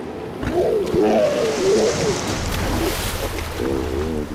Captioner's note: hippo roaring